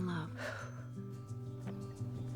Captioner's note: exhales